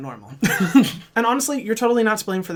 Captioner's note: laughs